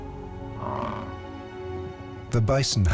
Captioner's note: bison grunts